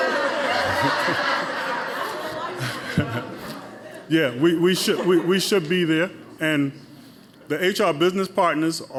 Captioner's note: laughter